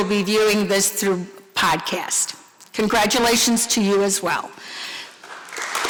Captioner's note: applause